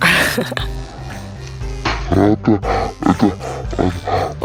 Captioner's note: laughter